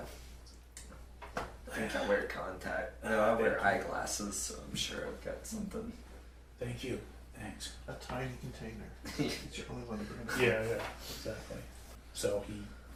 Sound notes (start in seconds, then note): 9.0 laughter